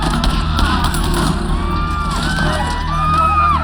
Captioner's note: groans